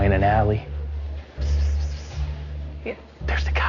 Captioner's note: playfully whispers